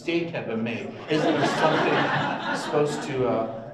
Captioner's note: audience laughs